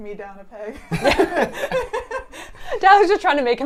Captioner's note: laughing